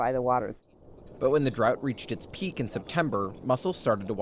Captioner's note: voice-over